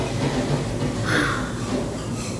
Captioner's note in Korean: 한숨